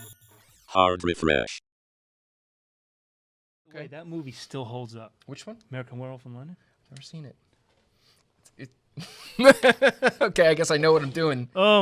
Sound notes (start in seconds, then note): 9.0 laughs